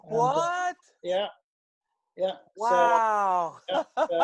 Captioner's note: laughs